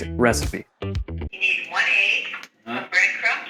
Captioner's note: Jamie's Mom On Phone